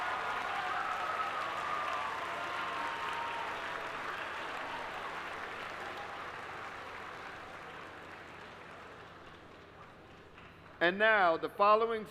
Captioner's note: applause